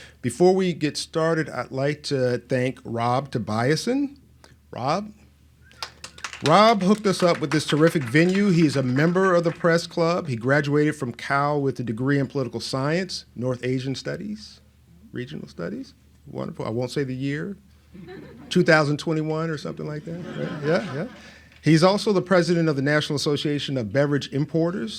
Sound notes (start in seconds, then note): 5.7 applauds; 20.0 laughs